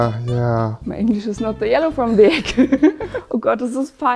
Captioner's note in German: deutscher Akzent